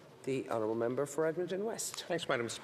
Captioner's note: speaking French